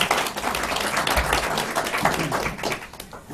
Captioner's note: applause